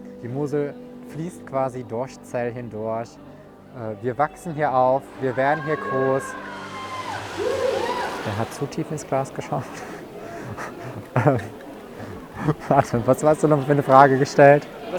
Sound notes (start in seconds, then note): 6.6 cheers in the distance; 8.4 laughing